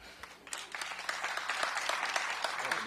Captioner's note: applause